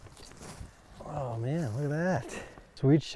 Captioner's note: footsteps crunching